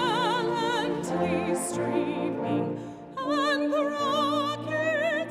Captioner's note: none